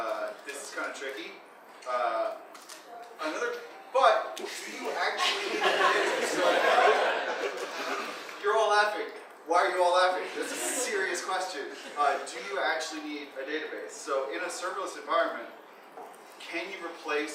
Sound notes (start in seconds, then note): 6.8 audience laughing